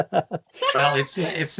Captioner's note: laughs